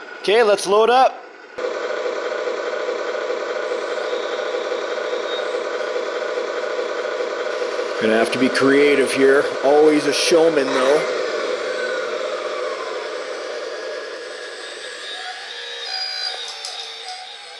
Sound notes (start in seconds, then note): 1.8 truck engine roars; 4.3 excavator squeals; 11.5 excavator squeals